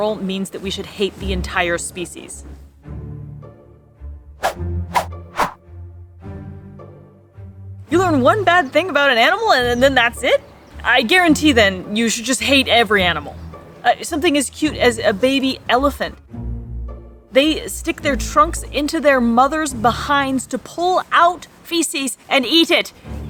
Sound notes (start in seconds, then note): 4.2 sound effects